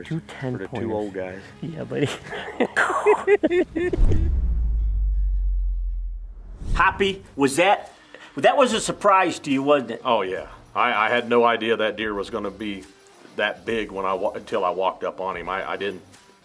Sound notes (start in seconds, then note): 2.0 laughing; 3.7 logo swooshing